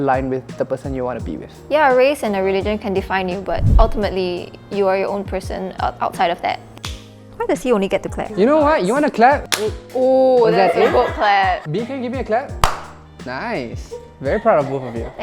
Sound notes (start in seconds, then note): 9.5 claps; 12.6 claps